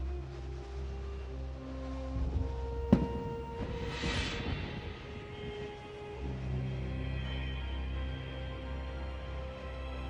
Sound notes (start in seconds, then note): 2.9 hourglass thuds